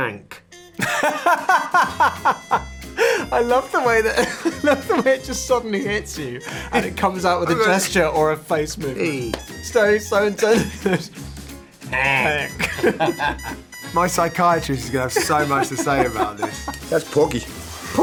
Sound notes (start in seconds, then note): 1.1 Eddie laughing; 12.0 both laughing